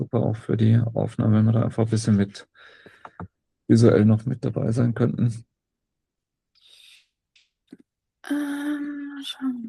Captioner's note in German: räuspern